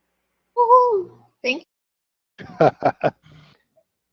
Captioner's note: laugh